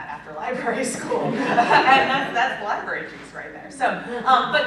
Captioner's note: laughter